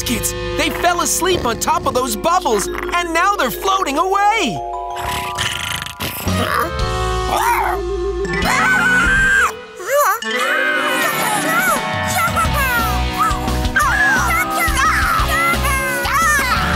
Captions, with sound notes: They fell asleep on top of those bubbles, and now they're floating away! [snoring] [squealing] [squeaking] [squeaking]